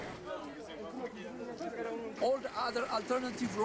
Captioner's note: chattering